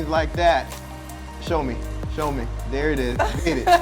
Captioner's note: laughing